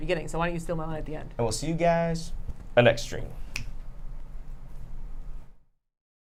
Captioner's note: snaps fingers